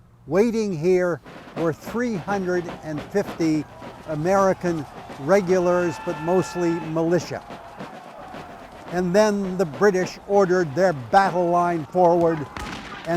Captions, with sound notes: Waiting here were 350 American regulars, -but mostly militia. -(troops yell) (rhythmic drum music) And then the British ordered their battle line forward